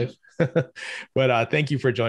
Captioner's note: chuckles